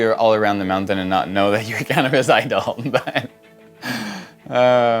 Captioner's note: chuckles